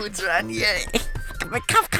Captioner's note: excited noises